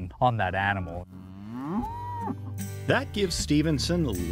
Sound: cow moos

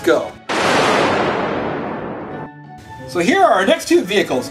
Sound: loud crash

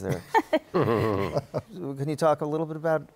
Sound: laughter

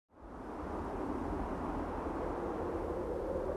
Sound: wind blowing

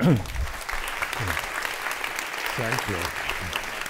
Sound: audience applauds

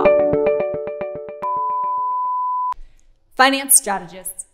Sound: beeping

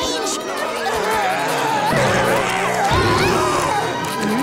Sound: groaning and screaming

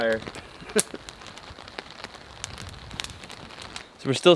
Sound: laughs

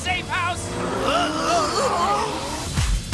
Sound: moaning

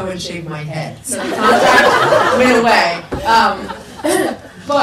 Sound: people laugh

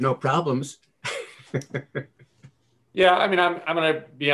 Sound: chuckles

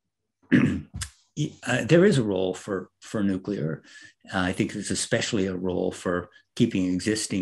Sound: cough

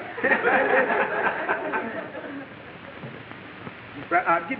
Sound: audience laughing

